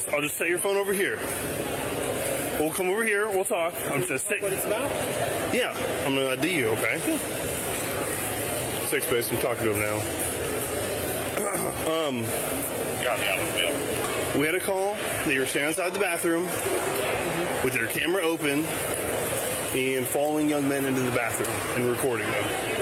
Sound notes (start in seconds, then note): 12.9 radio Chatter